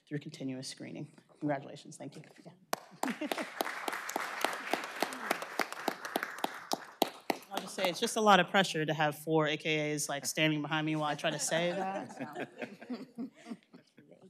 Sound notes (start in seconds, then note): 6.7 applause